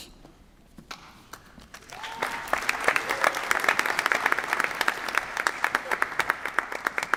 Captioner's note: applause